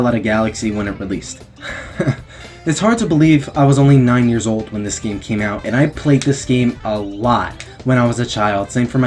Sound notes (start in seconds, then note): 2.2 sigh